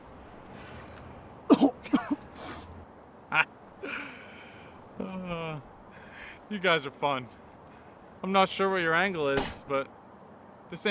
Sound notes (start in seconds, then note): 1.5 coughing